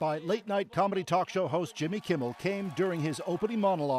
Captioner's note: cheers and Applause